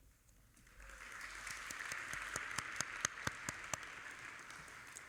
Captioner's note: audience applauding